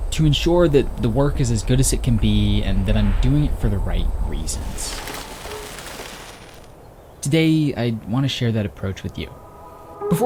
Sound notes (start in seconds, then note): 3.8 static crackling